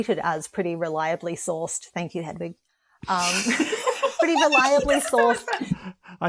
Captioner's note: laughter